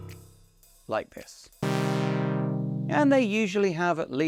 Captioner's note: sound of raw oscillator waveform being filtered